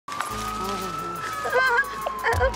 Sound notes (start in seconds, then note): 0.1 sirens wailing; 0.6 whimpering